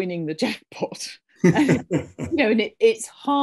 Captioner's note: both laughing